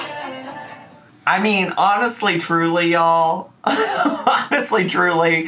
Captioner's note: laughing